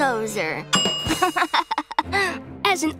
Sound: laughing

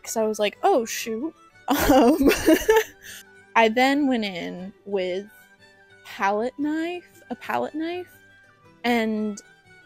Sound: laughing away the pain

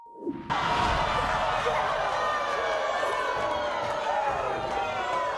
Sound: audience screaming

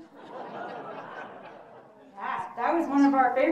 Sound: audience laughing

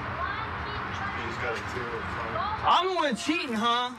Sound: muffled shouting

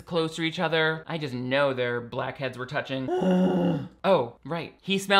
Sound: groans

